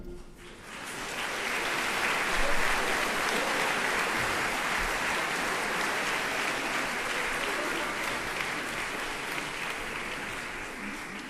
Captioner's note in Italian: applauso